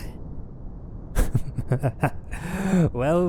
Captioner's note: more ominous laughter